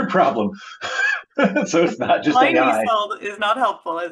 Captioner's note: laughs